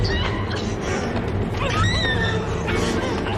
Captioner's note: scrcreaming